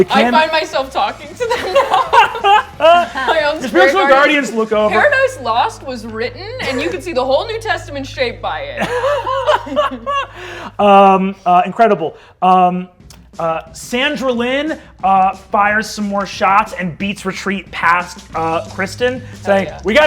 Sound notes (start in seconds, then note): 1.4 laughter; 8.8 laughs